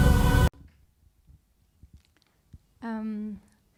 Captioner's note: audio cuts